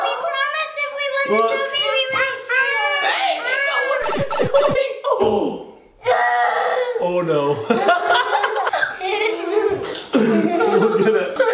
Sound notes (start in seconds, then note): 4.0 audio warbling; 7.0 gasps; 9.1 laughs